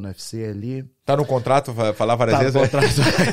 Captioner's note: laughs